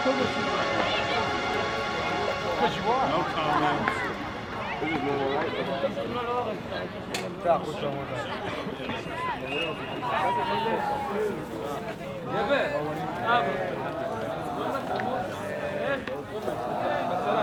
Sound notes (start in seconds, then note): 6.4 chattering; 12.7 singing in foreign language